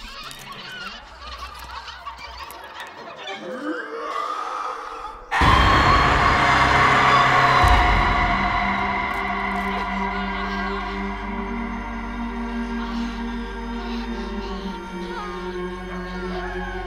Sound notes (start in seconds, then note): 3.5 banshee screaming; 10.8 dark foreboding music